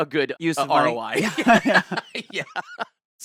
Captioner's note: both laughing